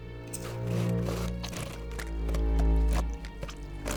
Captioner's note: flesh squelching